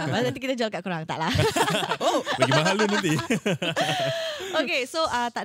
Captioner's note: jokingly